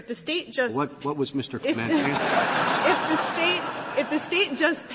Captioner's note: laughter